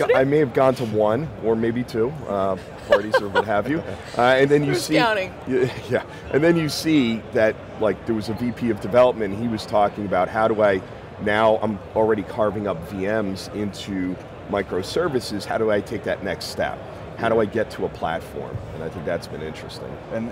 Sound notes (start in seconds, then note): 2.6 laughing; 5.6 chuckles